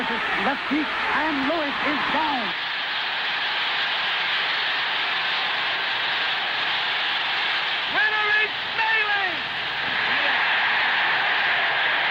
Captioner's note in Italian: Applauso